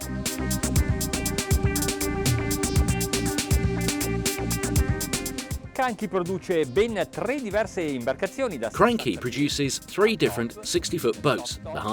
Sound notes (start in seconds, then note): 0.1 electronic music; 5.8 speaking foreign language